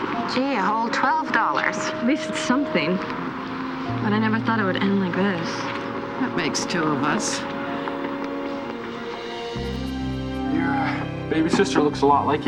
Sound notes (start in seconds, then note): none